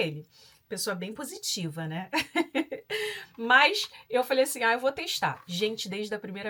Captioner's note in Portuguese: risadas